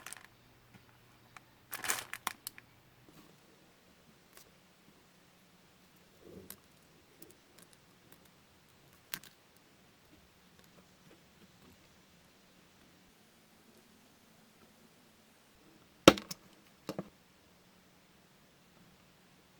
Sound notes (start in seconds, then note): 1.7 paper folding